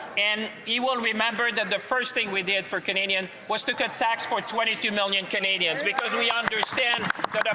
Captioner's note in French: voix de l'interprète